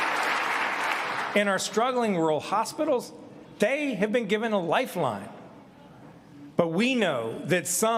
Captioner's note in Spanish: aplausos